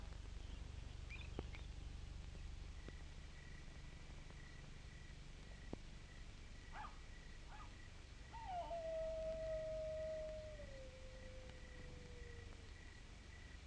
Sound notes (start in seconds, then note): 6.7 coyotes barking and howling